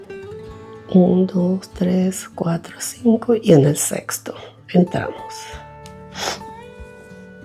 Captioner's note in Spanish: resoplido